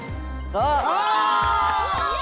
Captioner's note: cheers